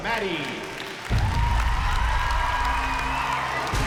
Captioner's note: audience cheers and applauds